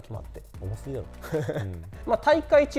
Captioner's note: laughs